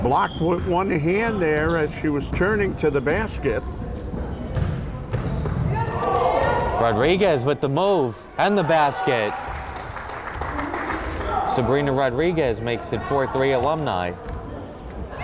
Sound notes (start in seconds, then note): 8.5 crowd applauding